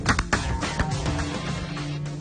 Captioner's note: shotguns blast